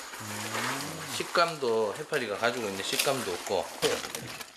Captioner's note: crunchy